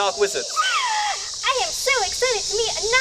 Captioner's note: gasps